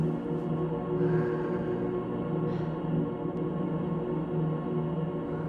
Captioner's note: daughter exhaling